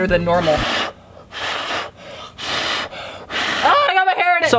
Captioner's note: blowing noises